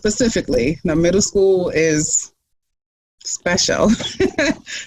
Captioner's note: laughs